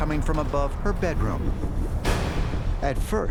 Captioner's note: banging